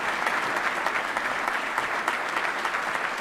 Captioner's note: applause